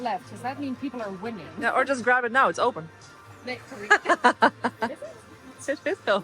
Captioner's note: laughter